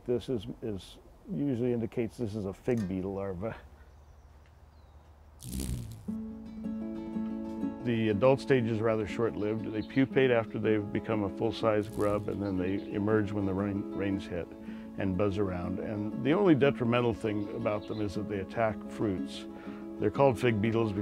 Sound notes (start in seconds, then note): 5.4 buzzing